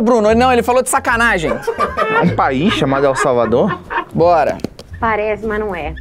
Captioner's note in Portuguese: risadas